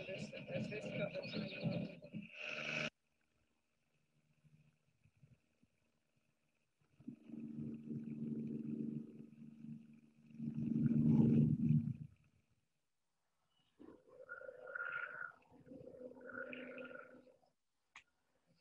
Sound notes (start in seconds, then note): 7.0 helicopter blades whirring